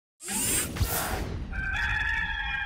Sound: mechanical noises; gamecock crowing

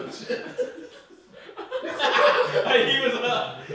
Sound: audience laughing

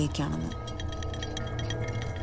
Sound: chains clattering

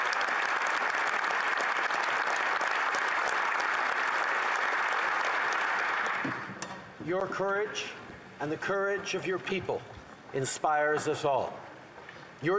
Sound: applause

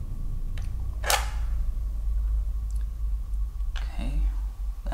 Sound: match striking

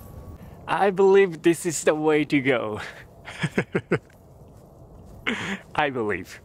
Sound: chuckles

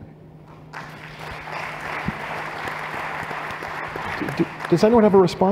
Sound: applause

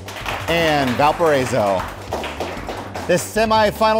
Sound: audience applaud

